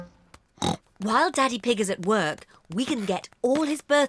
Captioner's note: oinks